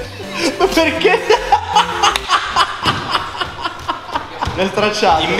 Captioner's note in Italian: Laughs in cappuccino